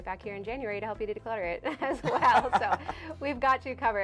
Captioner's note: laughter